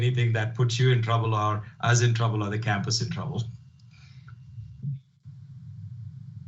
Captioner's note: chuckles